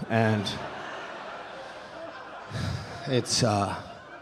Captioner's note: audience laughing